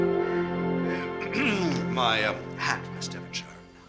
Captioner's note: clears throat